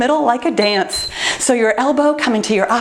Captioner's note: timer beeps